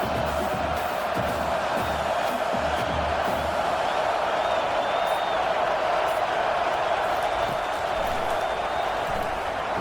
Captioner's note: crowd Noises